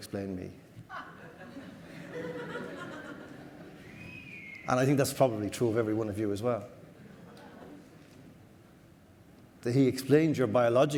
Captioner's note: audience laughter